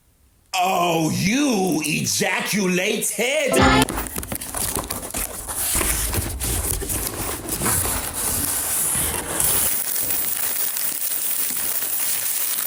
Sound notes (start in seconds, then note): 3.9 box fumbling; 7.4 box shuffling; 9.6 plastic rustling